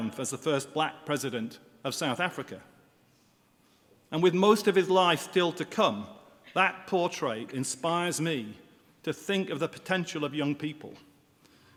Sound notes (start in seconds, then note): none